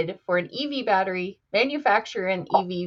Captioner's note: none